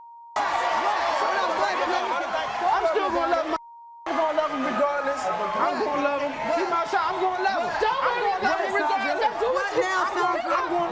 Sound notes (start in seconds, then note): 2.4 beep